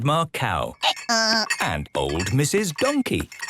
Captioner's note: braying